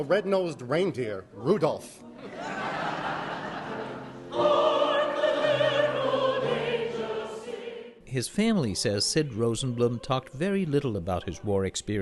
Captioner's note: laughter